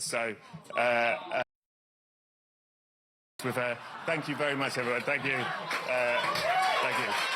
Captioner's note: applause